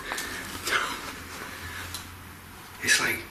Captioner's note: laughs